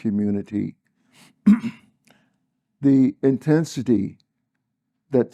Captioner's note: cough